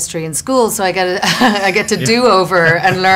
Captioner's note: laughs